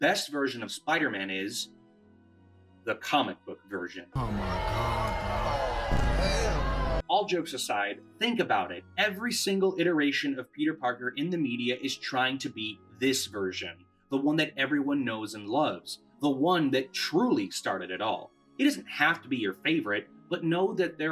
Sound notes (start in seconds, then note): 4.2 booing Intensifies